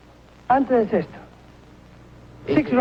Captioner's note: speaks in Spanish